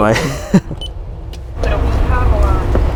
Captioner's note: laughing; buttons beeps; person speaking in foreign language